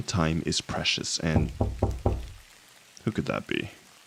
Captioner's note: we hear a knock at the door